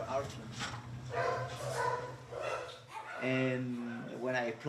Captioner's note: dogs barking